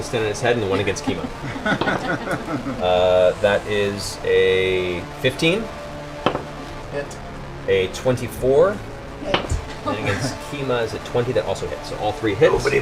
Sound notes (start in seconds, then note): 2.2 laughter; 9.1 higher voice